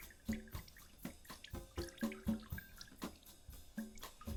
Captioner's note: water drips